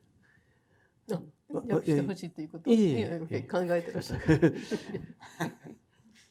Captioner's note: speaking in foreign language